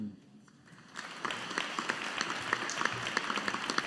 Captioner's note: audience applauding